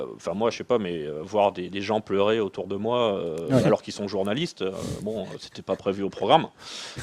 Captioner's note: laughs